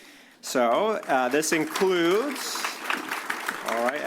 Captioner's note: applause